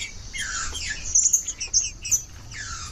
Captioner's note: trinca ferro cantando